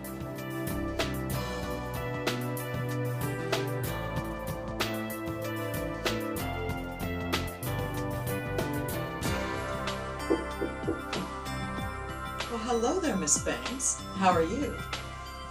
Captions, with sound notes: (lighthearted music) (knocking) - Well hello there, Miss Banks. How are you?